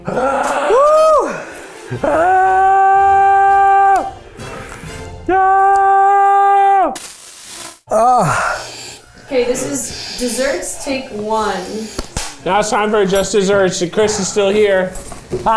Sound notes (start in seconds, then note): 0.0 exhaling in pain; 11.8 clapper board claps